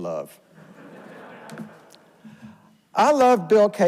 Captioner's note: audience laughs